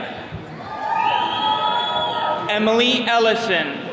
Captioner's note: attendees cheering